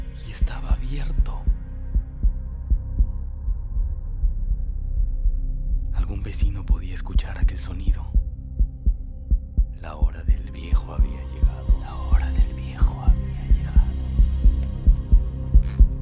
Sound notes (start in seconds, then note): 2.7 strong heartbeat